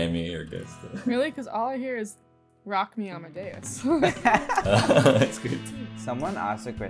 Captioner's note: laughter